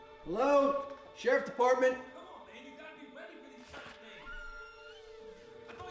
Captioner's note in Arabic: يفتح الباب; صراخ من مسافة بعيدة; يستمر الصراخ